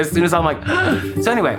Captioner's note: choking